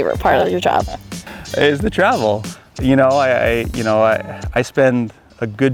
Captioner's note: laughs